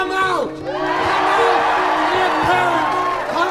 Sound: crowd cheering

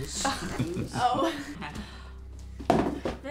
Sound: chuckles

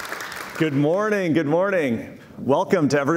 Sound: cheers and Applause

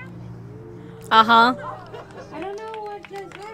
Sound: crowd cheers

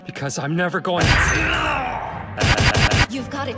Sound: Uotani smacks him, looped

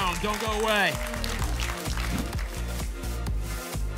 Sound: applause and cheering cont

